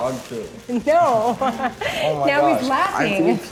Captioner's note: laughing